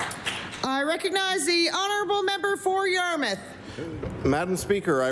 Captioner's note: applause